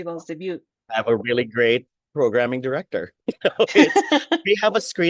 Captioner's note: laughs